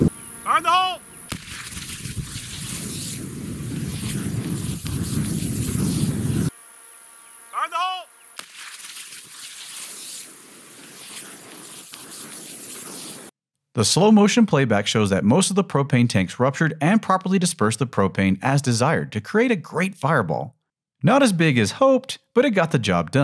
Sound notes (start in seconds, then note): 3.4 explosion